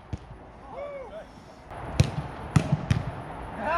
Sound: ball smacking

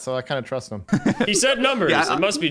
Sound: people laughs

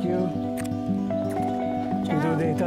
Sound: kissing cheeks

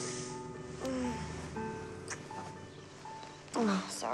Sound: moaning

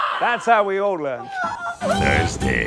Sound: yelps

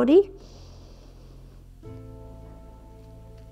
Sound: inhales

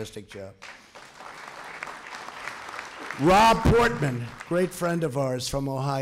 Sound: applause

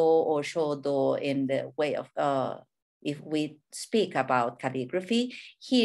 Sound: speaking in a foreign language

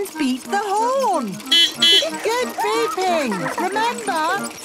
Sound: giggling; beeping

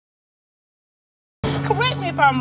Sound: audience exclaiming

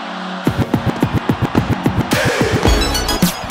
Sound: cheering

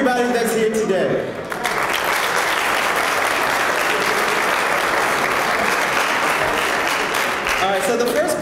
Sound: applause

